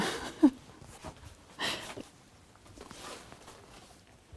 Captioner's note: chuckles